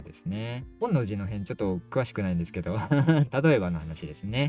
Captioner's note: laughs